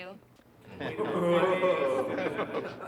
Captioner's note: oohing